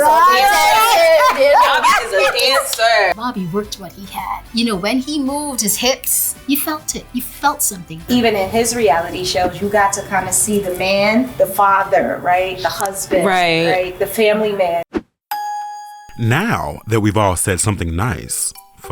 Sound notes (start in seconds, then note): 0.0 laughing; 15.3 ding